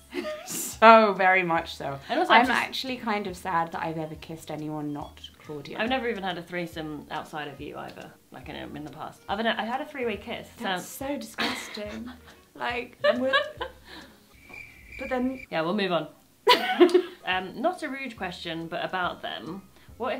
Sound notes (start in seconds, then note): 11.9 laughing; 14.3 crickets chirping